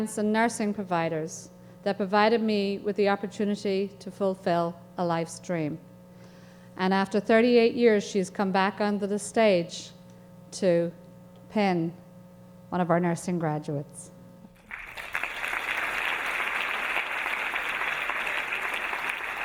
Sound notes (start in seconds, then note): 14.6 audience applauding